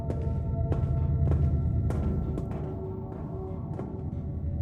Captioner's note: sound of footsteps